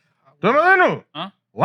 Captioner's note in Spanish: Hablando en idioma extranjero